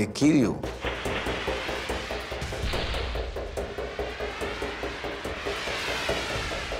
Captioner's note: suspenseful music; flares whooshing